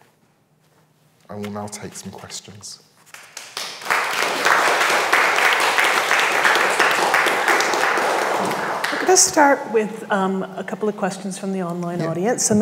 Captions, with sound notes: I will now take some questions. (audience applauds) - I'll just start with a couple of questions from the online audience,